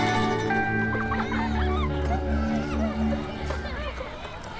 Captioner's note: Kids giggling